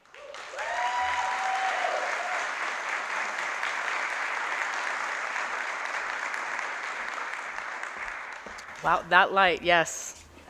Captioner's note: applause